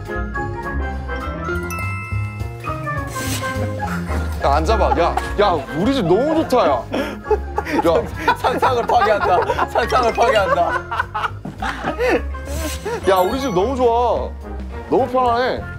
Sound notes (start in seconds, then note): 9.4 laughing at his own work